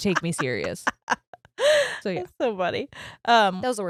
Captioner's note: laughs loudly